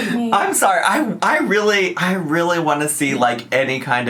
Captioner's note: laughs